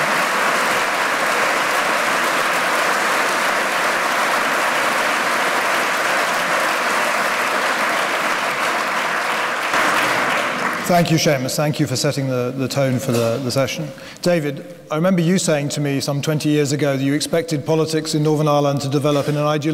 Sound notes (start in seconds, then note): 8.8 applause